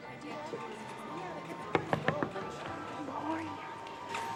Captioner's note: knock on window; whispering